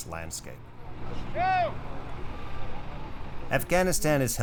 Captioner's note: man yelling